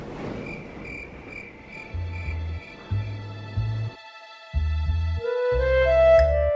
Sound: crickets chirping; suspenseful music

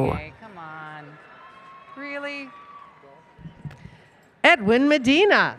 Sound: background Conversation

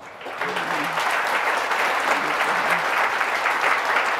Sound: audience clapping

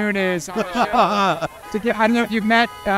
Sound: laughing

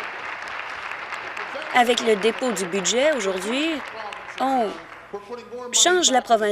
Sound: applause

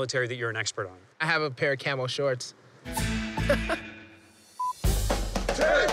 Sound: laughing

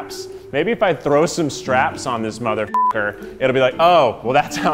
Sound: beep

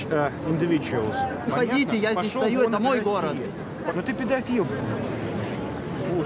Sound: speaking in foreign language

